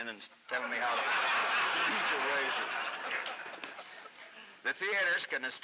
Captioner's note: laughter